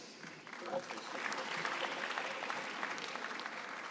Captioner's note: applause